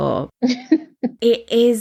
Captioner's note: laughs